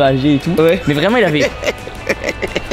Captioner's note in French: rire